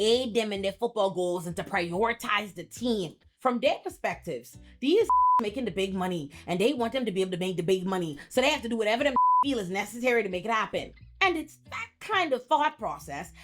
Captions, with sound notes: aid them in their football goals and to prioritize the team. From their perspectives, these (beep) making the big money and they want them to be able to make the big money so they have to do whatever the (beep) deal is necessary to make it happen. And it's that kind of thought process